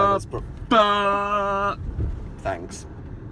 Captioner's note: interrupts with dramatic noises of spider-anticipation